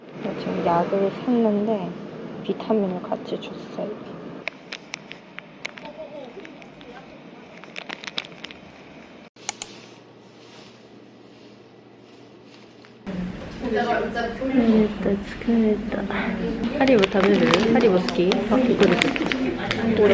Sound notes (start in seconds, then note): 15.6 Arabic